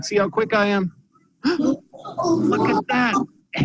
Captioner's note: gasps